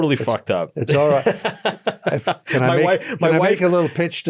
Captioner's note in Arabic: يضحك